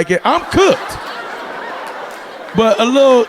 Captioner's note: audience laughing